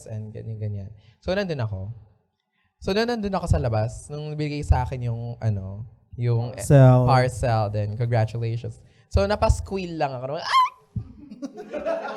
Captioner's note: gasp; audience laughs